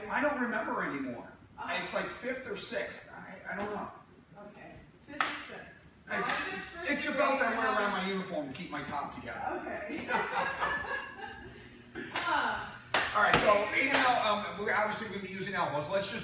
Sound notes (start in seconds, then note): 9.9 laughing